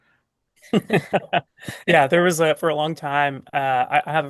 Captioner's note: laughs